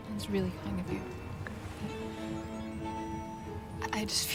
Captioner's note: none